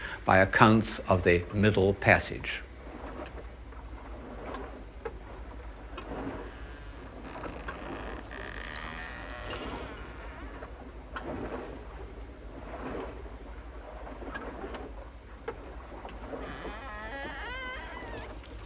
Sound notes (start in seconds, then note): 4.8 creaking ship timbers